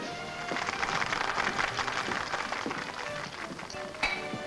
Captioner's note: patrons clap